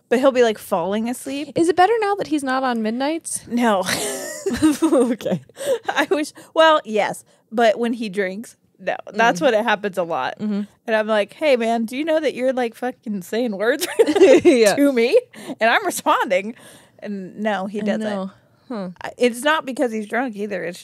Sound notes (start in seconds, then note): 3.8 laugh; 13.9 laughs